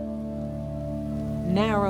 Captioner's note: dust crackling